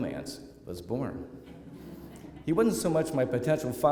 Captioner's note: laughter